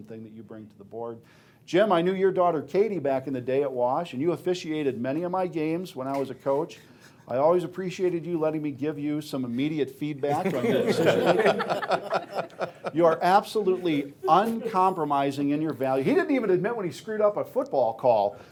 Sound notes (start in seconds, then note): 10.3 laughing